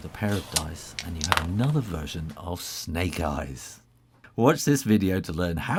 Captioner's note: rattle of dice